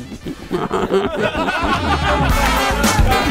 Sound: laughter

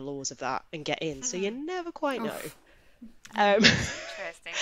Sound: laughs

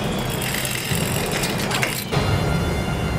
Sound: metal clinking; intense music

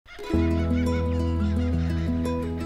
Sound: birdsong

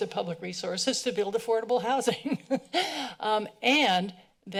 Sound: laughs

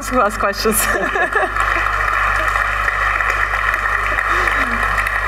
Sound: applause

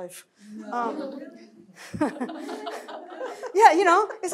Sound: laughter

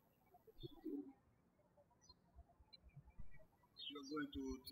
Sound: birds chirping

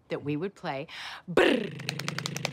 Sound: imitating drumroll

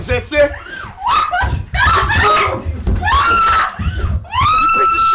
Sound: screaming

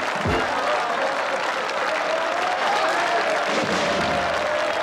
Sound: cheering and applause

